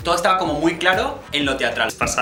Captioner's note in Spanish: none